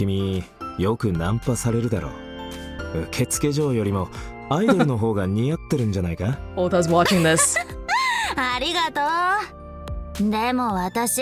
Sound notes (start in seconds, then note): 4.6 chuckles